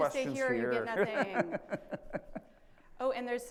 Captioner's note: laughs